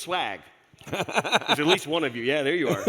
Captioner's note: laughs